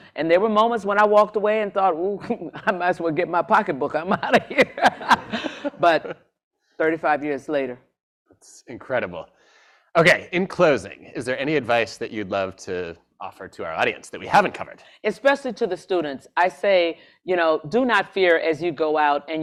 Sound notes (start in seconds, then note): 4.2 laughs